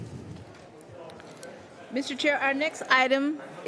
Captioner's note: mixed conversation in the room